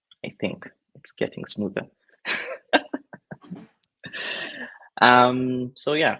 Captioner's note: laughs